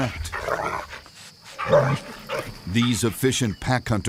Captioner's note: dog growling